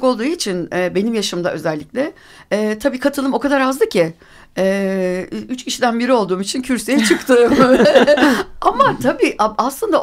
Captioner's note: laughing all together